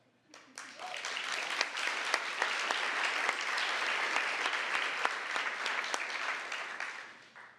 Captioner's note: applause